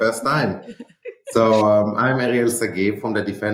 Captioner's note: group laughing